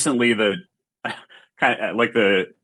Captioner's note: chuckles